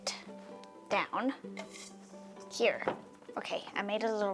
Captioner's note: bowl scraping